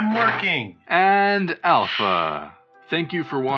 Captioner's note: sigh